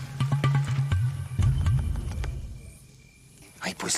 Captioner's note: chirping